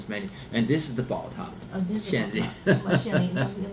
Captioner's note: laughs